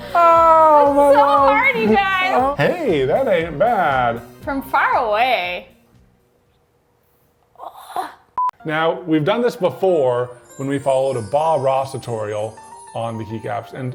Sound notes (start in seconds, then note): 7.5 sighs; 8.4 TV beeps